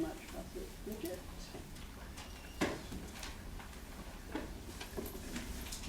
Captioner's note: shuffling